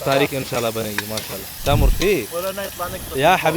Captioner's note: Arabic